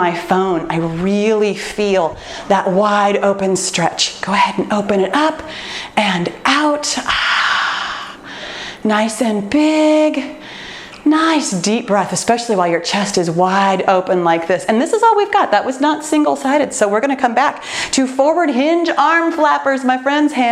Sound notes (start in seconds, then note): 7.0 exhaling deeply